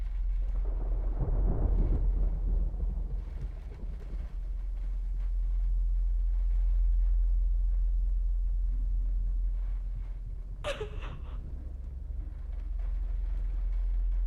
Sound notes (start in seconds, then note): 0.7 thunder rolling; 10.6 Catherine crying